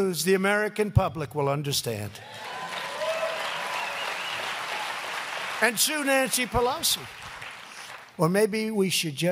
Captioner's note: applause